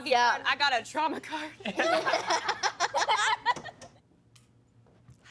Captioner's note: all laughing